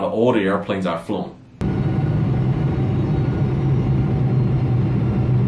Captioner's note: roaring engine